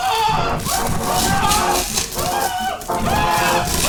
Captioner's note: yelling; screaming